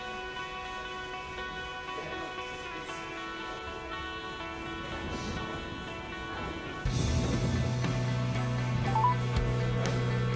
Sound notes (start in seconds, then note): 4.7 thunderclaps